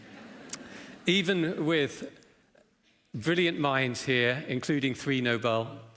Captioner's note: laughter